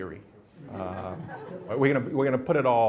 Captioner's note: laughter